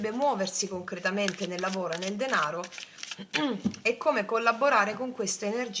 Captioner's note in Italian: schiarire la voce